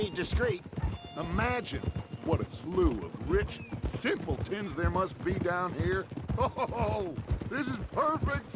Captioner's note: laughs